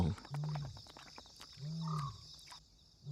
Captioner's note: animal growling